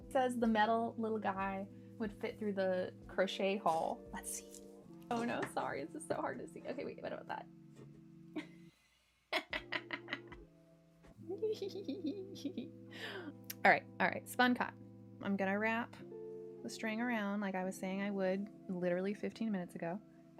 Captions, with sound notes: It says the metal little guy would fit through the crochet hole. Let's see. Oh no, sorry. This is so hard to see. Okay, wait, what about that? *gleeful giggles* All right, all right, spun cotton. I'm gonna wrap the string around. Like I was saying I would literally 15 minutes ago.